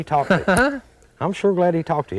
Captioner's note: laughter